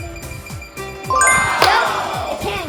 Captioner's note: audience sound effect; beeping tone